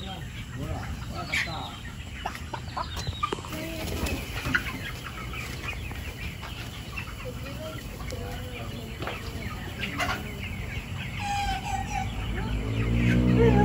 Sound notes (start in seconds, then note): 5.0 chicken sounds